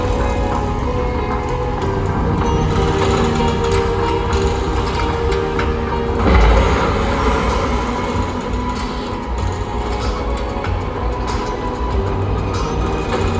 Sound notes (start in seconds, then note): 0.2 spooky music plays; 6.4 door creaks